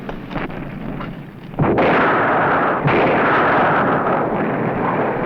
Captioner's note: blasting